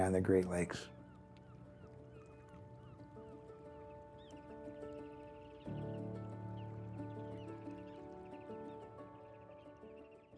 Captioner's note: gulls crying; gentle music